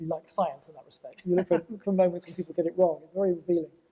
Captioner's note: laughter